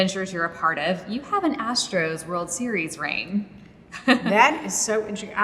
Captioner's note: laughs